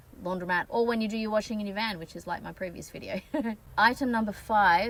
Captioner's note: laughs